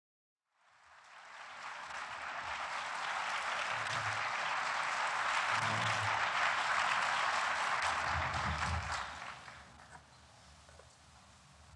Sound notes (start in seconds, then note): 0.5 applause